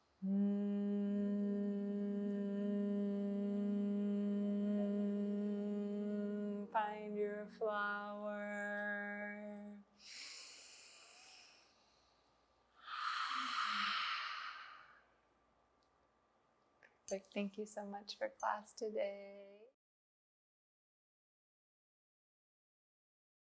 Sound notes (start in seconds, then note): 0.0 inhales; 0.2 humming sound; 10.0 inhales, smelling flower; 12.8 exhales